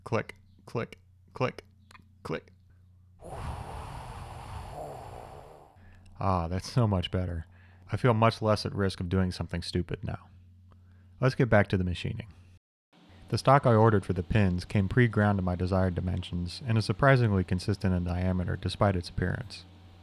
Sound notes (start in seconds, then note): 3.2 whooshing